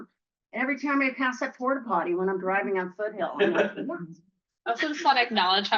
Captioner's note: laughter